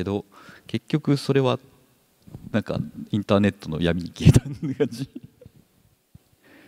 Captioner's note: chuckles